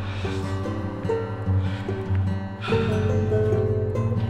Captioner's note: gentle music; Harry panting